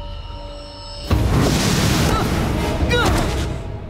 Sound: grunting

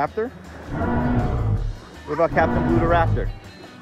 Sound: dinosaur grunting

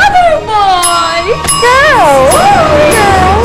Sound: ding!

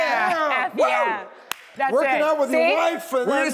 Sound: claps

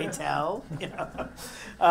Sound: laugh

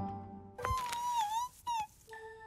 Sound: whimpers

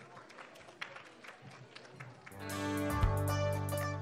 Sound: applauding; upbeat music

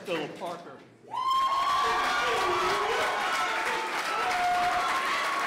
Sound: cheering

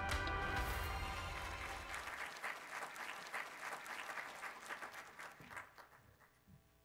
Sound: applause

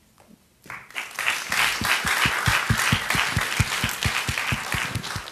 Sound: audience applauding

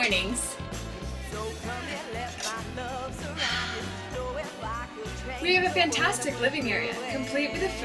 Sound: sighs

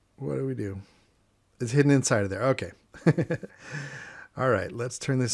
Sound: chuckles

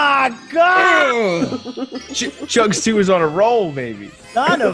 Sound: laugh

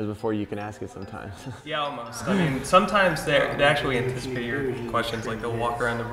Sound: laugh

